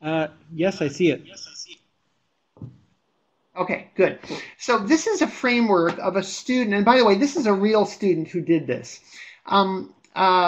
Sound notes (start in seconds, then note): 0.4 voiceover